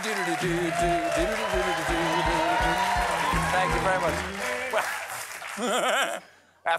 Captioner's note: mimics steam whistle; humming tune